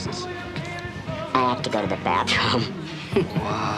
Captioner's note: helium voice